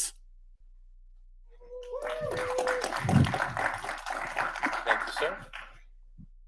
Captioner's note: audience applauding